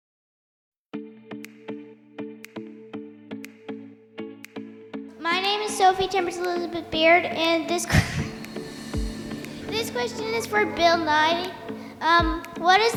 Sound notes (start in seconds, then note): 0.9 playful music; 7.8 laughs